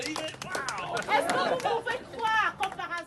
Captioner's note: applause